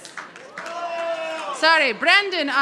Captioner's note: audience applauding